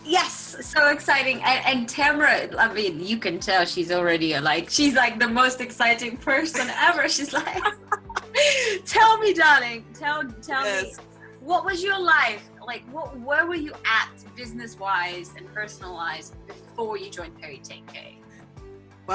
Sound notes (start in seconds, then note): 7.2 laughs